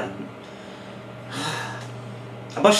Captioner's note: sighs